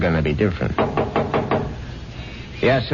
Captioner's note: knocking